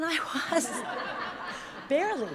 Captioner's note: audience laughs